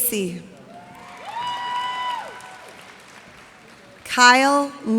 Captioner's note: cheers and applause